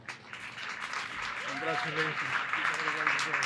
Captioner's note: applause